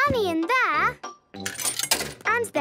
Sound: coin tumbling

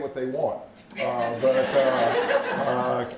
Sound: laughter

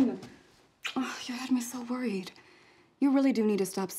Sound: kiss

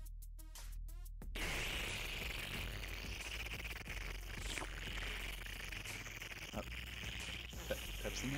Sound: 💦Aggressive Slurping💦; Pepsi Man gasps for sweet oxygen

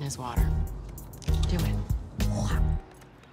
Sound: spits

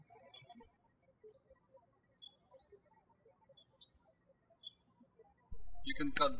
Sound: birds chirping

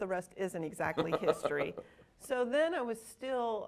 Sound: laughing

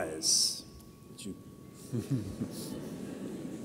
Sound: laughs

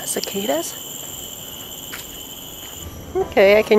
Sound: cicadas

